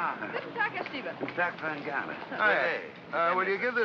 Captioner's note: speaking in German